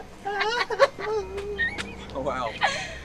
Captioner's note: Queen Clown laughing; Kyle whimpering